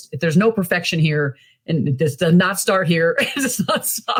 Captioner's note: chuckles